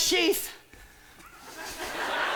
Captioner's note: laughter; chuckles